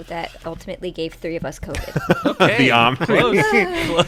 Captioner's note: laughter